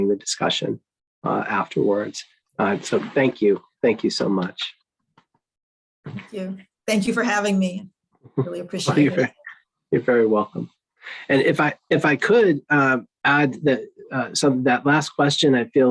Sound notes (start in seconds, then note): 6.1 applauding; 8.8 laughs